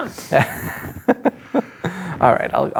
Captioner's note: laughing